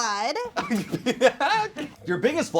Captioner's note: laughs